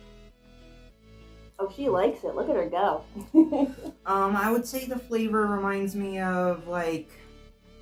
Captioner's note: laughs